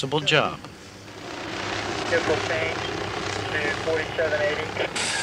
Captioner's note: helicopter engine and radio